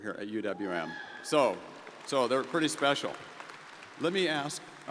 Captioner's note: crowd applauding